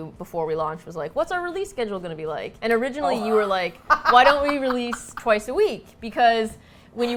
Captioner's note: laughs